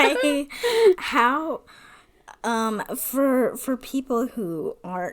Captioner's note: laughs